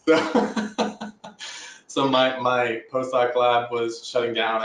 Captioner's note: laughing